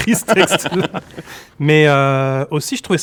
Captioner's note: laughs